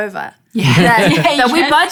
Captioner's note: laughing